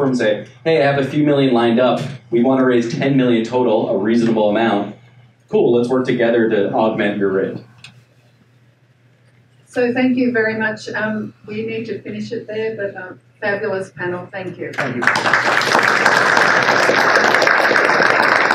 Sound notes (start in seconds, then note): 14.8 applause